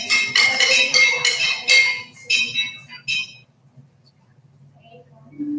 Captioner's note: rapid metallic clinking